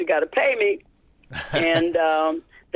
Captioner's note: laughter